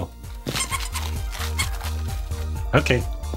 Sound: squeaking

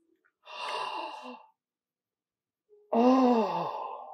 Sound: gasp

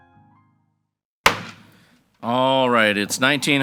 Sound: gavel bangs

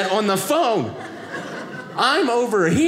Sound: audience laughing

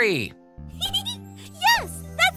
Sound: giggles

